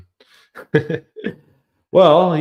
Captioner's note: laughs